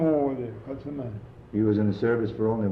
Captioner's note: voice of speaking in French